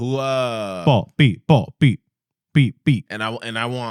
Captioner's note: speaking Spanish